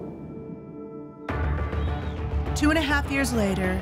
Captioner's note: crowd cheering